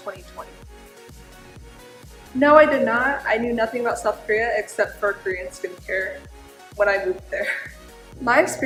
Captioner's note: laugh